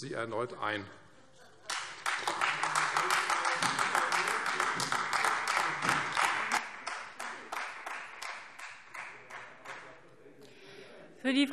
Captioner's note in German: Beifall Freie Demokraten, AfD und vereinzelt SPD